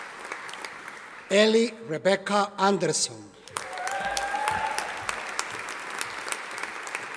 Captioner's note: audience applauding